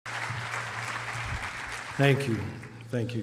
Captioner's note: applause